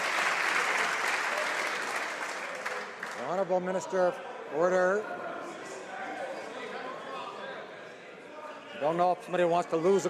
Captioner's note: some applause